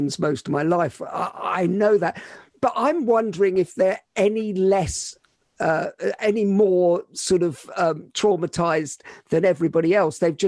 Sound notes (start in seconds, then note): none